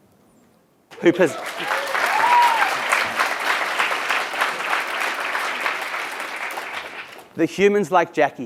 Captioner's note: applause